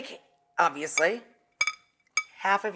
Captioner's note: bowl clinking